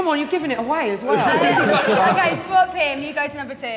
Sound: Sidemen laughing

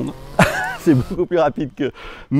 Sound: laughter

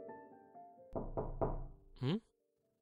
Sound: door knocking

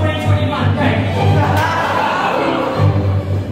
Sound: audience Laughs

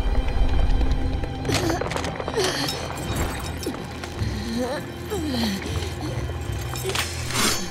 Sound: groaning

